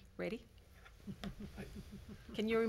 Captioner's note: man laughs